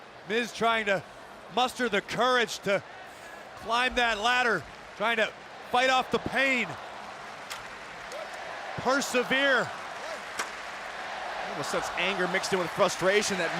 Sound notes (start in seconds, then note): 7.0 crowd cheering; 10.1 crowd cheering